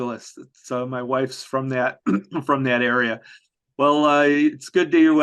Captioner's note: coughs